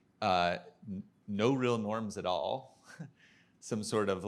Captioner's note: chuckles